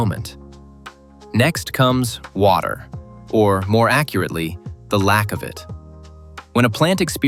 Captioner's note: water